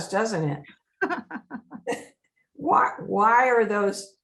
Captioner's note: laughing